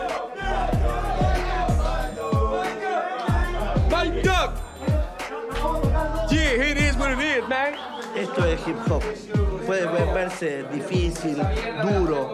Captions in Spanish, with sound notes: (HABLA EN INGLÉS) Esto es el hip hop. Puede volverse difícil, duro.